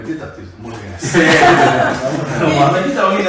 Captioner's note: laughs